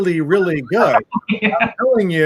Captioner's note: laughs